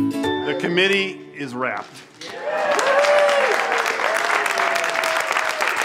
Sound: crowd applauding and cheering

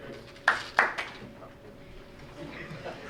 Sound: crowd applauds

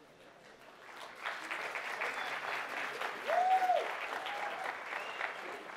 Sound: applause

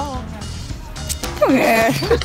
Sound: loud suck

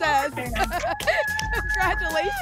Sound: laughs

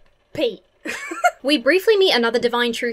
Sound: laughs

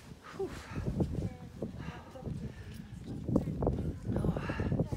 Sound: wind blowing loudly

